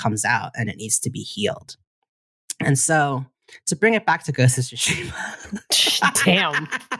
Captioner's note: laughter